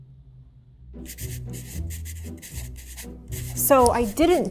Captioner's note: whimsical music; marker scratching